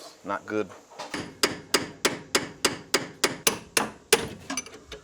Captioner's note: hammer pounding